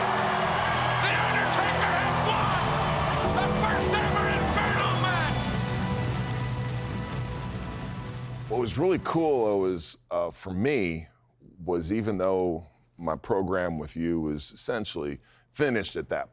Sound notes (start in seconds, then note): 0.1 crowd cheers; 3.4 crowd cheers wildly